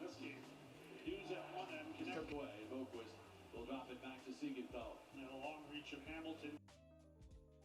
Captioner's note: TV playing, hockey game being called